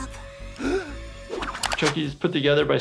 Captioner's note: gasps